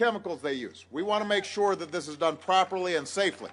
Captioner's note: applause